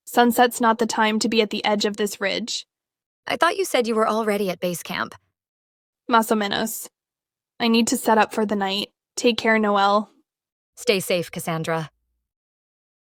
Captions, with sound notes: Sunset's not the time to be at the edge of this ridge. I thought you said you were already at base camp. [Spanish] Más o menos. I need to set up for the night. Take care, Noelle. Stay safe, Cassandra.